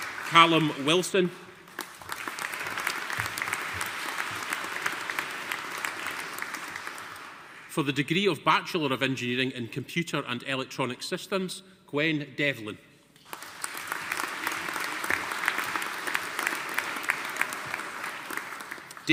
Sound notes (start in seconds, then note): 1.6 audience applauding; 13.2 audience applauding